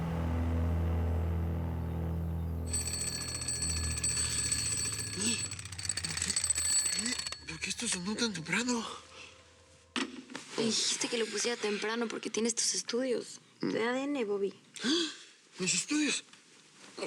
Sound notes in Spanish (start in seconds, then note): 2.6 Sonido de alarma